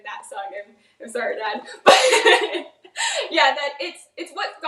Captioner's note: laughs